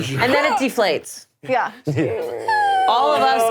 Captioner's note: whining goofily